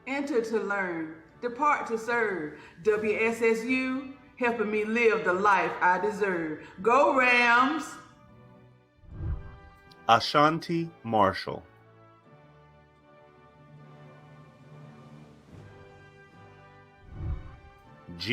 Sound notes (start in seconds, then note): 9.0 whooshing; 12.7 celebratory music; 17.0 whooshing